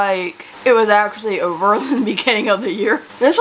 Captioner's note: laughs